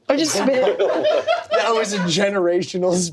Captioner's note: everyone laughs